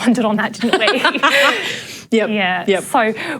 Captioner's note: laughter